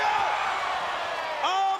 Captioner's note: crowd cheering